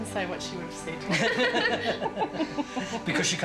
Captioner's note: everyone laughs